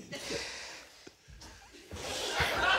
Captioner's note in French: retient sa respiration